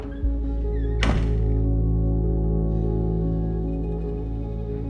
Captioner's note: door opens; footsteps thud; door latches shut; tense, mysterious music